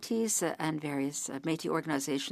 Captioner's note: speaking French